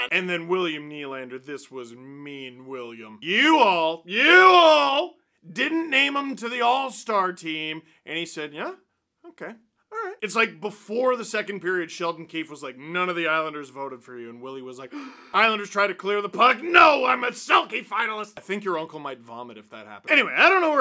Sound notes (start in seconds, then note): 14.9 gasp